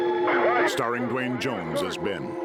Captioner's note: officer on radio